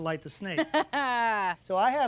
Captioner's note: laughs